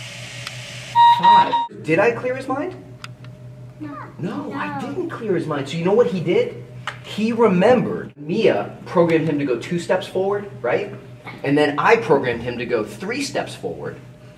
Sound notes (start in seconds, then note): 0.9 beeping